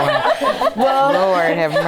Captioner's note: laughter